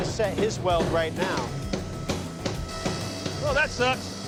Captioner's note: pounding